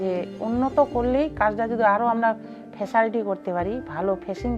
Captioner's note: speaking foreign language